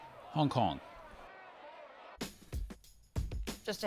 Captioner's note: chanting